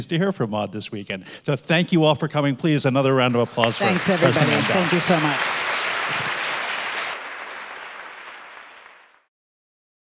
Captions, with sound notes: to hear from Maud this weekend. So thank you all for coming, please, another round of applause for President Mandel. - Thanks, everybody. Thank you so much. (audience applauding)